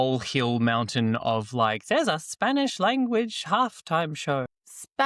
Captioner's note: in an old person voice